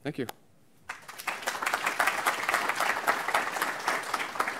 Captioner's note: applause